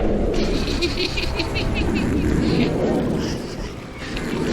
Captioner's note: woman laughing